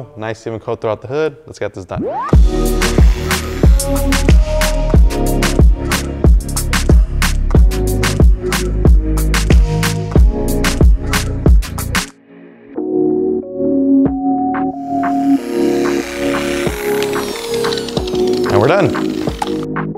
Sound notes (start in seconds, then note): 3.0 groovy music; 4.0 polisher whirring